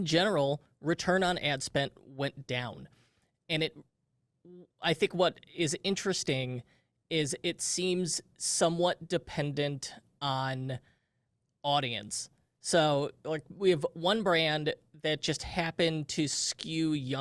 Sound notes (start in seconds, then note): none